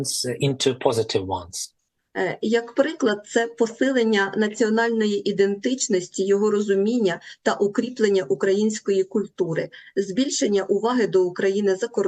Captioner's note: foreign language